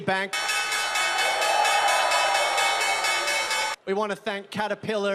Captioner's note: çan çalıyor ve tezahürat yapıyor